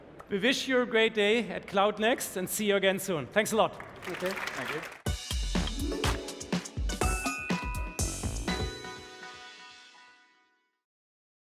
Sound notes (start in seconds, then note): 3.7 applause